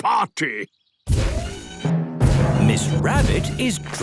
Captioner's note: thudding, mechanical whirring